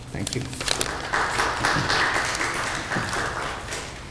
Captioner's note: applause